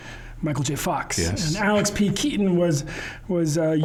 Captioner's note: chuckling